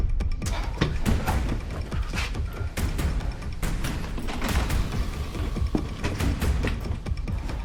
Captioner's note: dramatic music; Dan panting